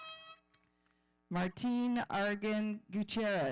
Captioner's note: horn blowing